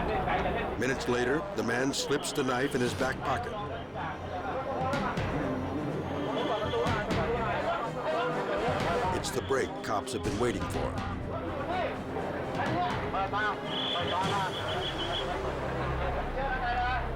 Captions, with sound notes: Minutes later, the man slips the knife in his back pocket. (all speaking in foreign language) It's the break cops have been waiting for. (all speak in foreign language)